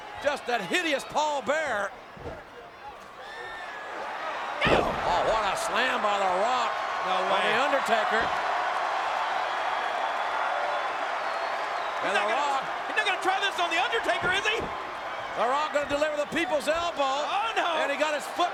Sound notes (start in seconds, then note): 4.5 Jerry shouts; 4.6 Undertaker thuds; 6.9 crowd applauding